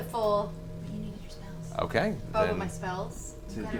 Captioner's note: whispers